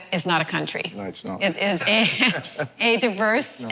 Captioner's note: laughter